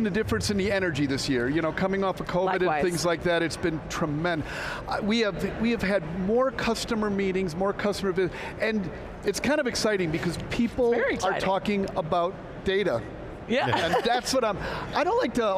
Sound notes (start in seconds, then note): 13.6 laughs